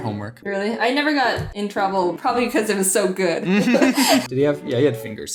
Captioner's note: laugh